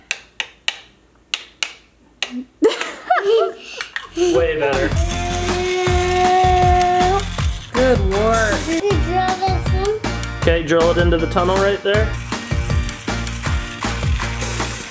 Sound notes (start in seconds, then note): 1.3 toy hammer clicking; 2.3 laughs; 4.8 makes drill noise